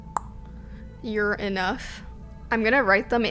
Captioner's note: mouth clicking